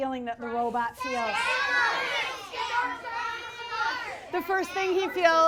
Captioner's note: audience yells emotions